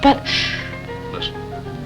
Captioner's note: pleasant piano music; shushing